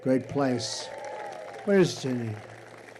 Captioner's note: applause